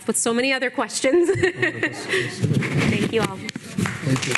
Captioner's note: laughing